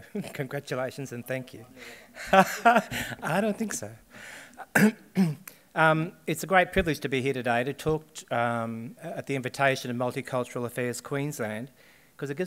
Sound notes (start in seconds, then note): 2.0 laughs; 4.5 coughs